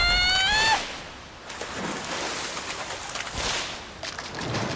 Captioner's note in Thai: เสียงน้ำกระเด็น